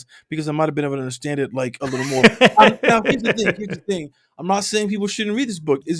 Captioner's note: laughter